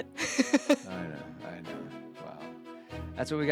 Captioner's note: laughs